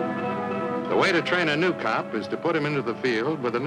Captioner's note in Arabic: تعليق صوتي